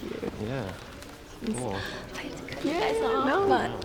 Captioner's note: gasps